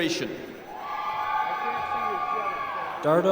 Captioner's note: applause